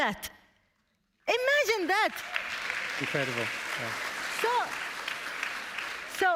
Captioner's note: applause